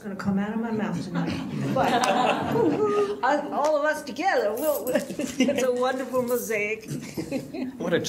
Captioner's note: audience laughs